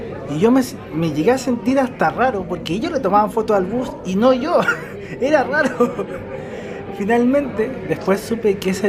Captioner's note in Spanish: risas